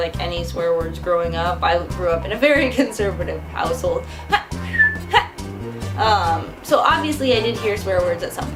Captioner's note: huh, whistle, huh